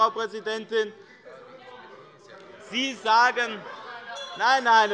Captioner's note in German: Anhaltende Unruhe - Glockenzeichen der Präsidentin